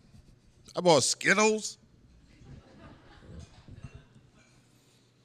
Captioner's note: laughter